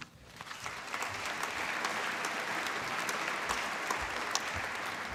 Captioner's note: applause